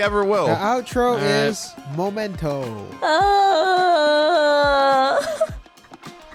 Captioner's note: groaning